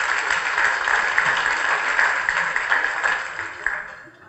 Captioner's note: applause